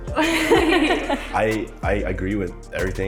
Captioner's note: people laughing